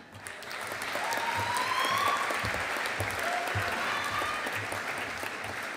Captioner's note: audience applauding